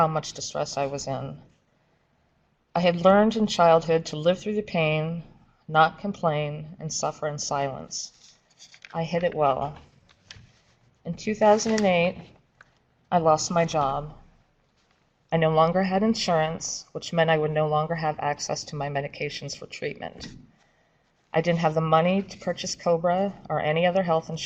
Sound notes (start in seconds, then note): 8.0 paper shuffling